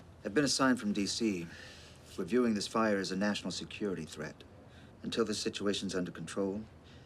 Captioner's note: none